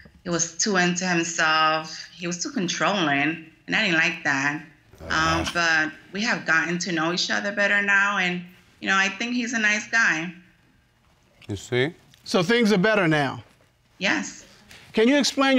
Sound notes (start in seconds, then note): 4.9 groaning